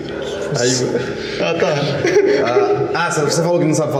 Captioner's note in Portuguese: risos